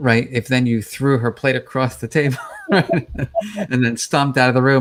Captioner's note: laughing